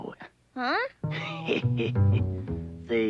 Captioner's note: laughing